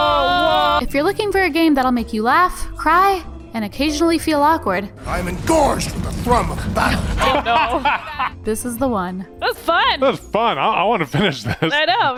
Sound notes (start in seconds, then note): 6.8 laughs